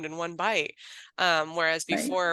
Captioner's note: laughs